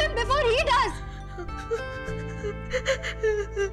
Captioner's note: Nikki crying